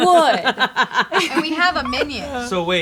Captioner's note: laughing